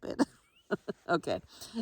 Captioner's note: chuckles